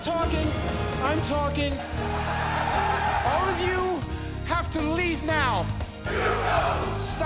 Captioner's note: fans chanting